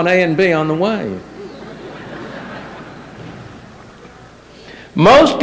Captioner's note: laughter